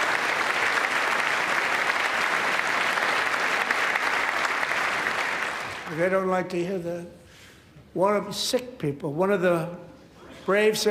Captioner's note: applause